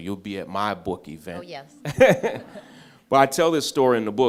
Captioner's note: laughs